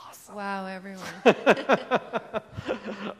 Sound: laughs

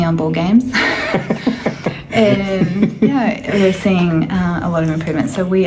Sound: laughs

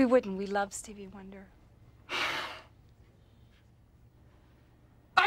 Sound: sighs

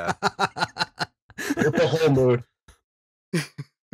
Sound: laughter

